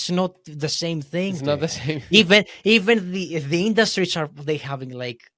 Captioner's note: laughs